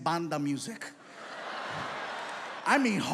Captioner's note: audience laughs